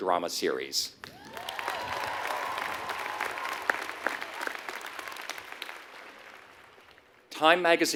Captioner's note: applause